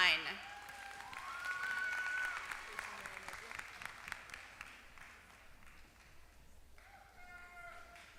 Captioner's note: applause